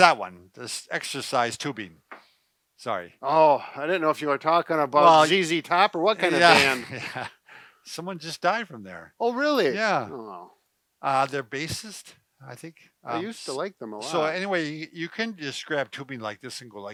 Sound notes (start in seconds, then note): 6.2 chuckles